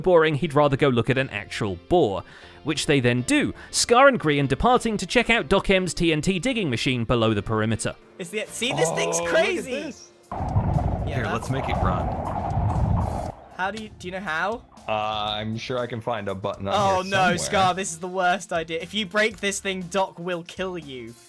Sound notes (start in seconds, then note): 11.0 many sculk noises